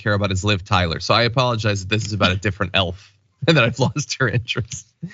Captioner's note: laugh